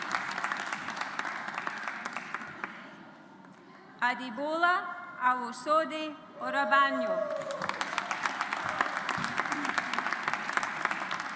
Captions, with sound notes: Adebola Awosode Orabanjo. (AUDIENCE APPLAUDS)